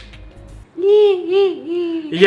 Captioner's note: Pontianak laugh